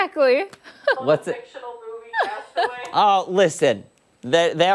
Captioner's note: laughter